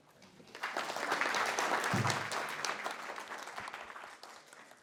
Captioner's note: applause